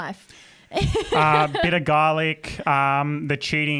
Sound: laughs

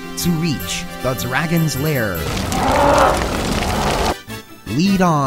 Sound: dragon Roaring

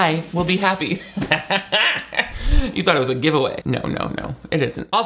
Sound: laughs

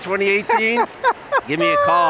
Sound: laughs

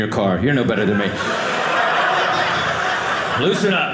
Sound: audience laughing

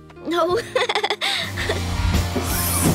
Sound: laughing

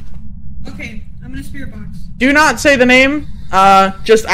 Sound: spirit box static begins

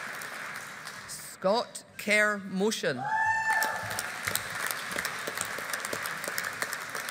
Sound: audience applauding

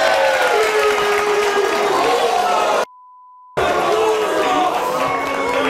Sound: audience applauding; audience booing

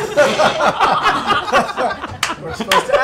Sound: laughter

